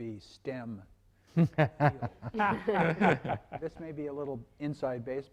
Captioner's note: laughing